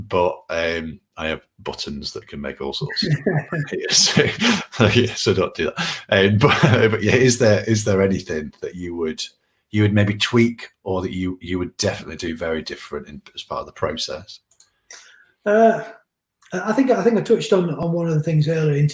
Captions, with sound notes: I have buttons that can make all sorts of stuff happen here. (they both laugh) so don't do that. But is there anything that you would maybe tweak, or that you would definitely do very different as part of the process? - I think we touched on one of the things earlier,